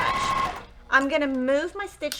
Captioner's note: sewing machine rattling